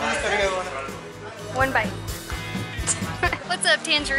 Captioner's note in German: Lachen